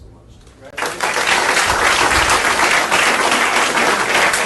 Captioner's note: audience applauding